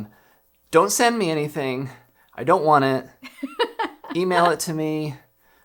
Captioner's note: laughs